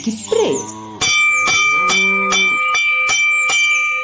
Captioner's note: bell rings